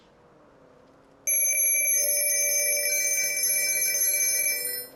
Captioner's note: phone rings